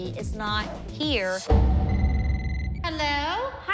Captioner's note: phone ringing